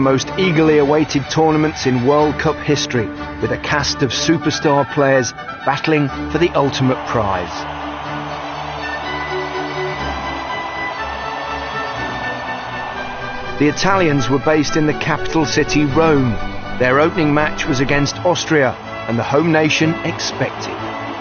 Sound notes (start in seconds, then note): 8.2 crowd cheering